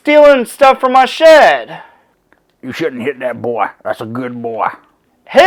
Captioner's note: In a sling blade voice